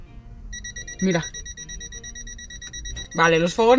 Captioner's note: beep, beep, beep, beep